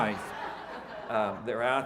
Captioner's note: audience laughing